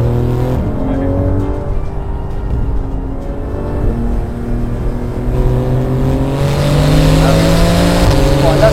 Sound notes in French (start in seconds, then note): 4.6 Vrombissement des moteurs